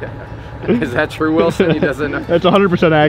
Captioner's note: laughing